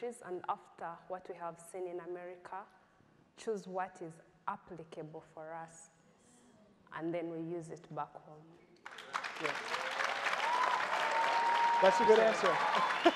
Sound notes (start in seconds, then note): 8.8 crowd applauding